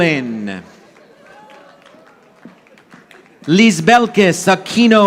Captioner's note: audience applauding